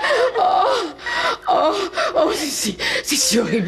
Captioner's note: sobbing